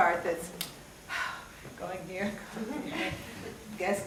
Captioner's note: sighs